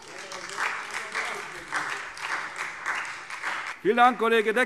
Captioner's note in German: Beifall SPD - Zuruf Freie Demokraten